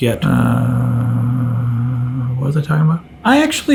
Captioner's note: groaning